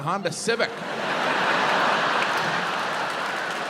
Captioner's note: crowd laughs; crowd claps